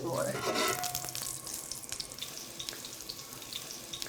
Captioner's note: sizzling